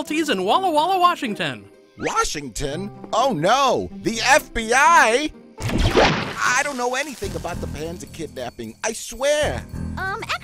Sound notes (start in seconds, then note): 5.6 door crashes